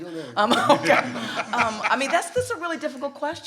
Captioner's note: laughing; panel laughs